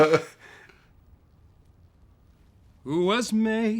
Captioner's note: awkward silence